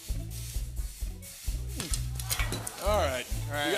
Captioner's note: audience ohs